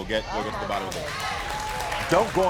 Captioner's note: audience applauding